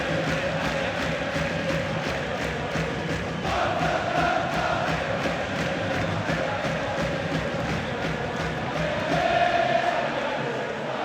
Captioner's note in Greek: χειροκροτημα